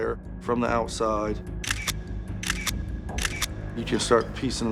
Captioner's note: camera shutter snapping